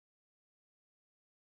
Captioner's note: speaking French